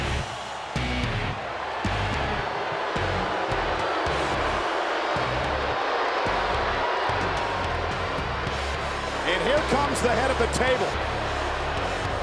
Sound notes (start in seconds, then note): 0.0 rock music; 1.5 audience booing